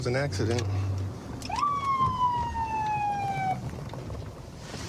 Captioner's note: sirens blaring